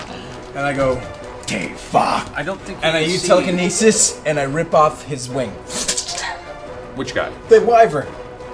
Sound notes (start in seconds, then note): 1.1 speaking Draconian